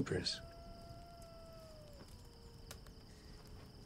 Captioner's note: coyote howling in distance